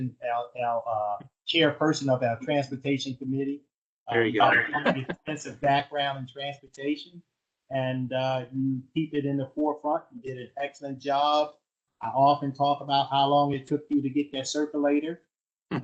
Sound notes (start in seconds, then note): 4.4 laughter